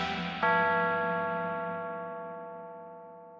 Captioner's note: eerie gentle music continues; clock chiming